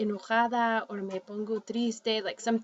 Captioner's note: speaking spanish